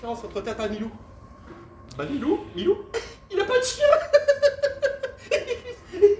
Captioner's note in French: Rires